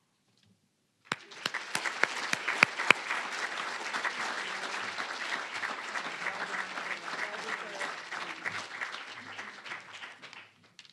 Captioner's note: applause